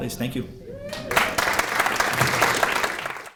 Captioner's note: cheering and applause